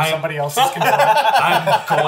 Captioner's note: all laugh